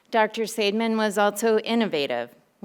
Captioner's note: none